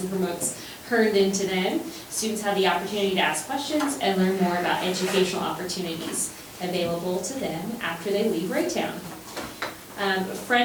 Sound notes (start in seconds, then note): none